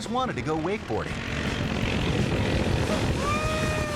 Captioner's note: boat motor buzzing